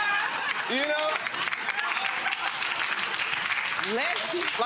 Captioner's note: audience clapping; audience laughing